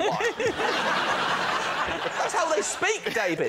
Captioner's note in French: rires